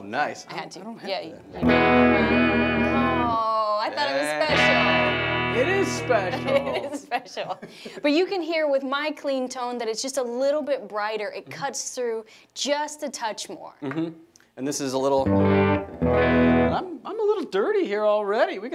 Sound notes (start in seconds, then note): 4.0 strums guitar; 5.8 laughs